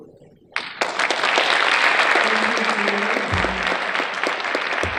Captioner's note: audience applauding